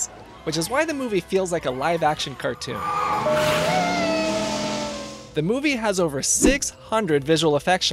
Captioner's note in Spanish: suena el motor